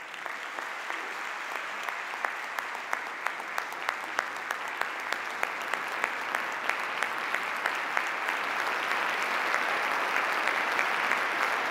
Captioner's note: audience applause